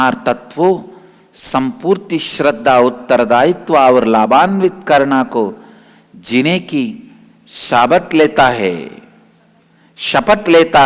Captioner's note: hindi